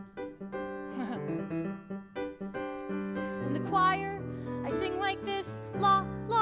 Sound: laugh

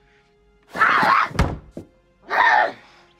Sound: growling

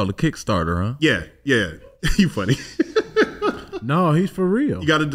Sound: laughs

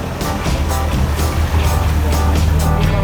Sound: sound of engine

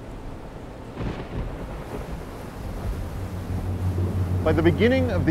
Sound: thunder cracking

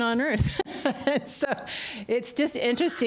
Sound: laughter

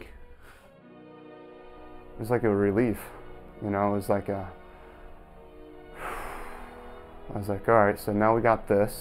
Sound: big exhale

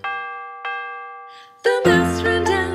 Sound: clock chimes

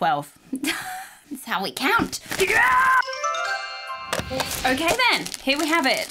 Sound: yells

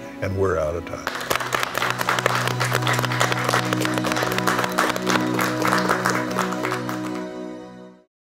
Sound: clapping

